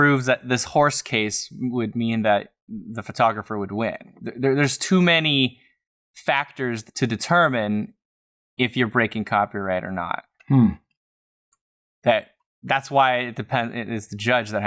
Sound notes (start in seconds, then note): none